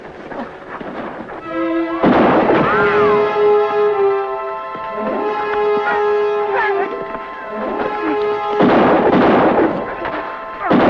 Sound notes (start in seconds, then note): 1.9 gun fires; 2.0 bullet ricochets; 7.6 guns fire